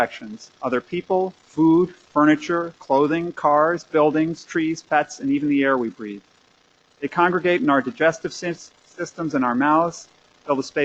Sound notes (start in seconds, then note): none